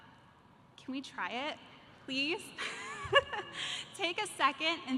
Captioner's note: laughs